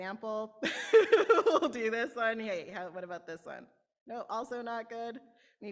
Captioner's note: laughter